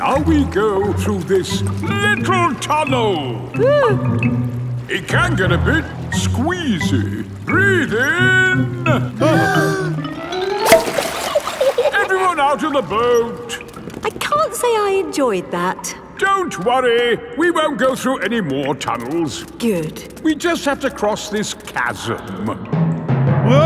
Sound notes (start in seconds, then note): 3.6 whimpers; 9.5 breathing in